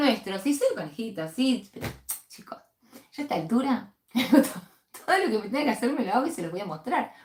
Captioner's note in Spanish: risas